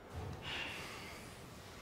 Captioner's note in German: seufz